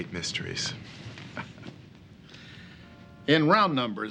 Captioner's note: chuckles